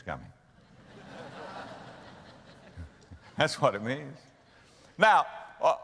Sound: audience laughter

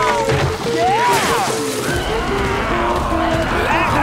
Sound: growling, stomping

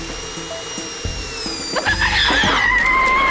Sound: screaming

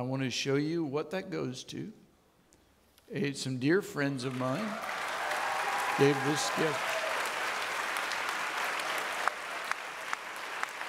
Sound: audience clapping

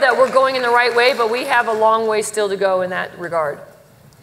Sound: applause

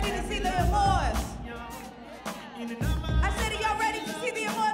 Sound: audience members applauding

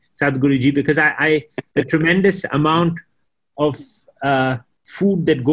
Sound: Sadhguru laughs

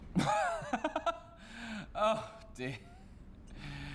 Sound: laughs

